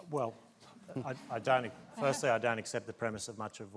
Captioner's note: laughter